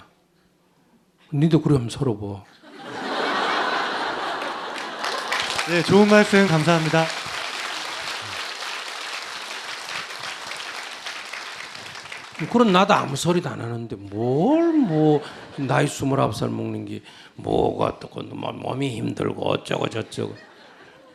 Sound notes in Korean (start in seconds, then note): 3.9 청중 웃음/박수; 8.2 청중 박수; 20.0 청중 웃음